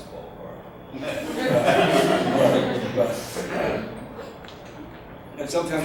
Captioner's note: audience laughs